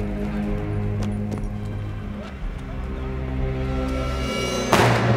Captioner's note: ominous music; soldiers speaking in German; gun fires